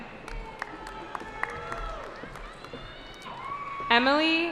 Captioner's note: cheering